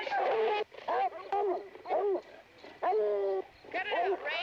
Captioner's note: dogs barking